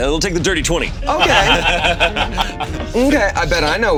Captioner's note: all laughing